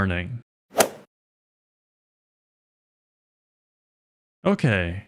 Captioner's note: golf swing sound effect